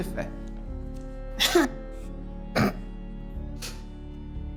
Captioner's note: laughs